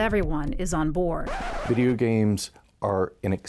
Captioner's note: record scratch